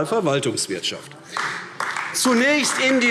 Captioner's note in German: Beifall AfD